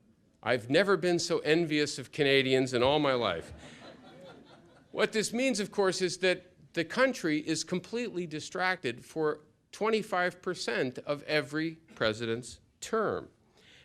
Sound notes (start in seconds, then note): 3.3 laughter